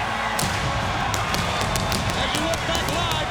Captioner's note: audience cheers; pyro bangs